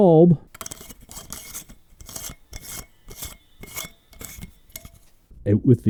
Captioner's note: lightbulb unscrewing